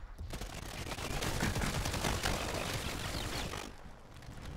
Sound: guns firing

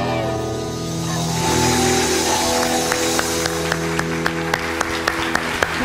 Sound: applause

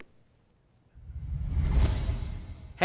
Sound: whoosh

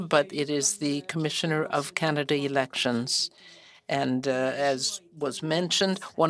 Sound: speaking French

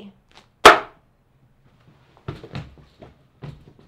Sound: wine bag banging

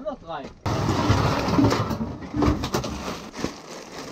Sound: crash

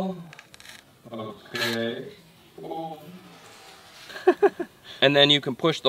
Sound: laughs

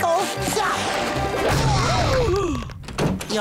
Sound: gasping

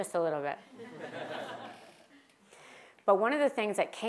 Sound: laugh

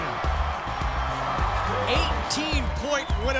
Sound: cheering

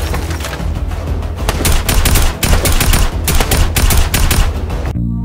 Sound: intense tactical assault rifle shooting

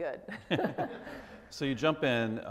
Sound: both laugh

